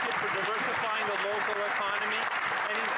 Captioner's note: some Applause